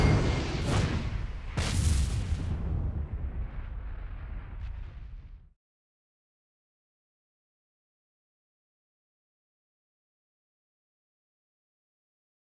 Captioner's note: whooshing sounds